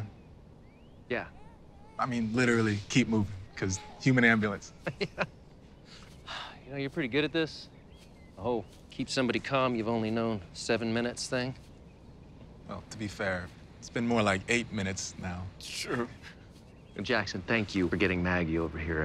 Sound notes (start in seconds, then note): 4.5 chuckling